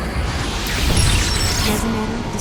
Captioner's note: glass breaks